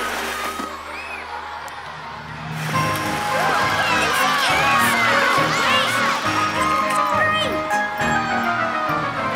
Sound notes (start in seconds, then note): 4.1 audience cheers